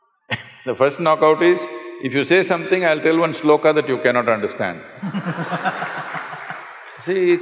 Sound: laughs; laughter

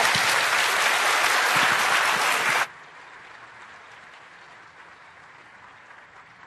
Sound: applause

